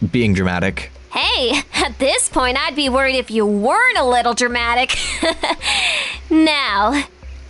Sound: chuckles

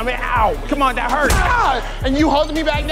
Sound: man yells

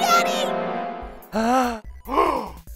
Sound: gasp

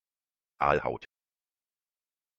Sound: fast Pronunciation

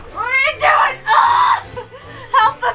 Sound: screams

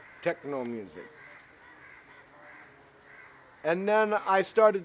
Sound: birds squawk

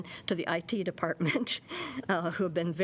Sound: laughter

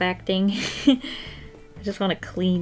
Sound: short laugh

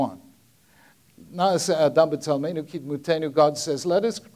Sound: speaking in Hebrew

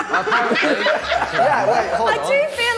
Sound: all laughing

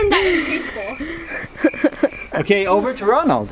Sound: laughs

